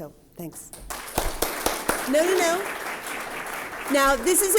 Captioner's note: applause